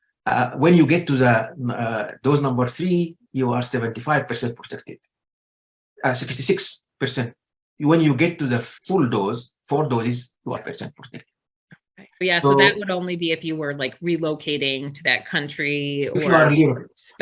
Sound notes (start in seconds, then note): 3.9 audio warbles